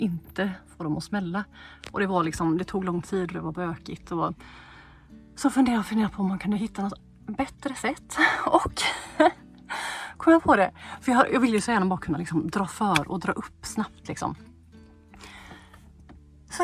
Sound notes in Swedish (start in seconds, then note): 8.8 skratt